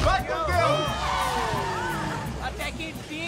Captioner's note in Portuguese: Carro acelerando